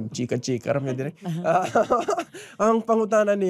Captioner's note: laughs